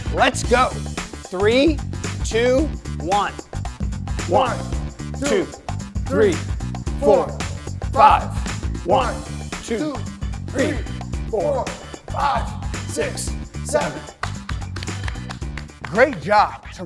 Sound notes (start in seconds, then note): 13.9 applauding